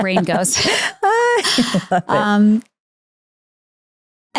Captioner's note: laughs